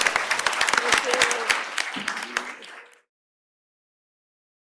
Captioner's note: applause